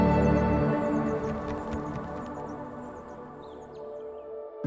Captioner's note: wings flapping; gentle music